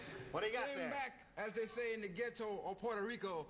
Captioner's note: normal voice